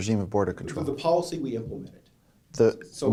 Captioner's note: voiceover